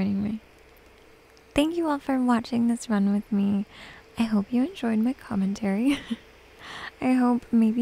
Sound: giggles

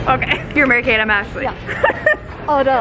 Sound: laughs

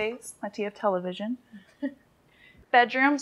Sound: Natalie chuckles

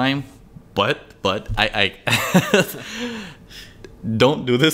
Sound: laughs

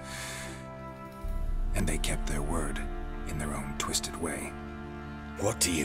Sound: inhale

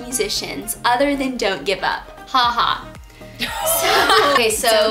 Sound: laughter

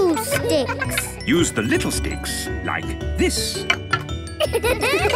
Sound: laughter

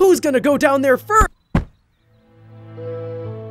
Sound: Roach thuds; upbeat calm music continues

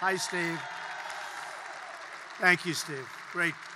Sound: applause

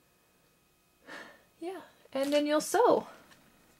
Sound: sigh

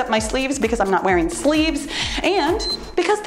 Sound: timer beeps

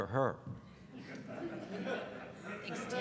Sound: audience laughs

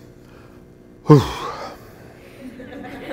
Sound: laughter

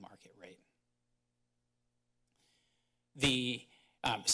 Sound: pause

